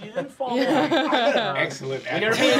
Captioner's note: laughing